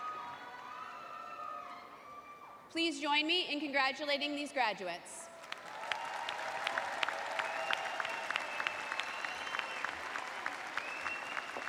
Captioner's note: cheers and applause